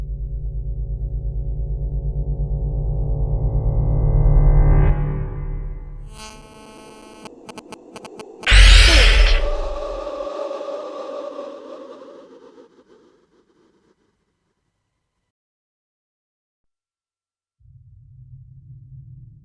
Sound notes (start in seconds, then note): 6.1 buzzing; 10.0 wind howling